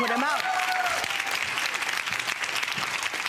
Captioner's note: cheering